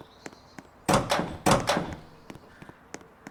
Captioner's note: doors Opening